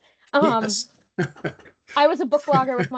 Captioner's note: laughing